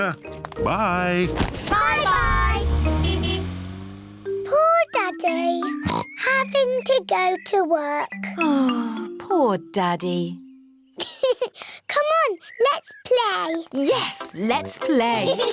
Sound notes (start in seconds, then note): 0.7 toots horn; 5.8 oinks; 11.0 laughs